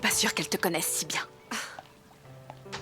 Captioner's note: scoffs